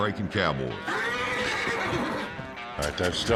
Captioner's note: horse neighs, bucks